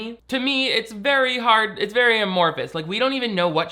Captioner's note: none